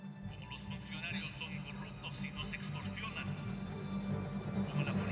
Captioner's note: speaking in foreign language